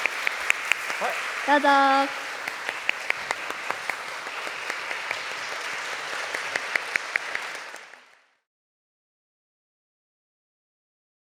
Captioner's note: applause